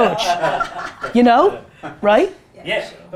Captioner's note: group laughter